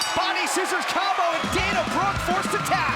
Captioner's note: crowd chatter